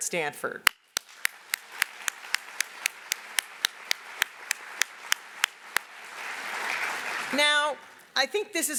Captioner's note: applause